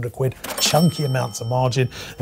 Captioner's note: bell chimes